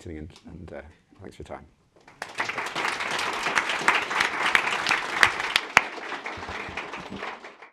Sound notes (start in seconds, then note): 2.0 applause